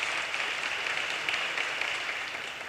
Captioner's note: audience cheers and applause